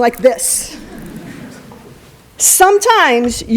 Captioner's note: laughter